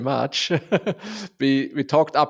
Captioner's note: laughs